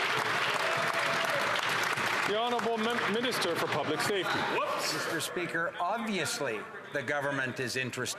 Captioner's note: some Applause